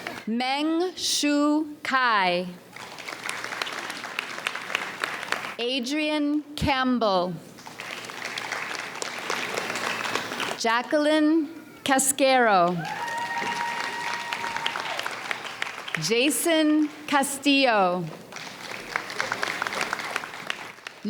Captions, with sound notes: Meng-Shu Cai. (audience applauds) Adrienne Campbell. (audience applauds) Jacqueline Cascaro. (audience cheers) Jason Castillo. (audience applauds)